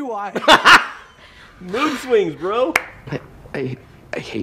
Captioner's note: laughs